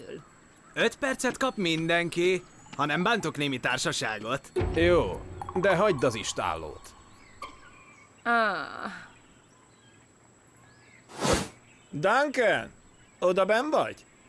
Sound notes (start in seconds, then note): 8.6 sighing